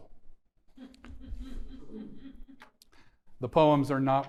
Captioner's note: audience members chuckling